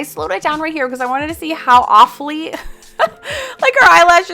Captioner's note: laughs